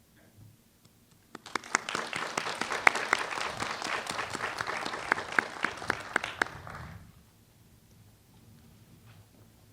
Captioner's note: applause